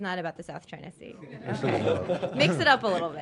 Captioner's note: laughter